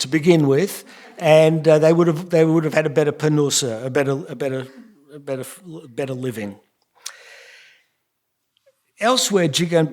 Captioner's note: yiddish